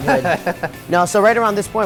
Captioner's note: laughing